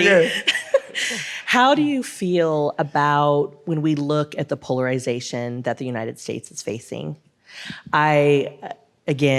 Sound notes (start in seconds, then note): 0.0 laughs